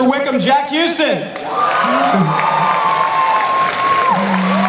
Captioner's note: audience applause